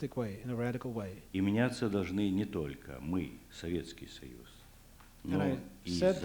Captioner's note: non-english speech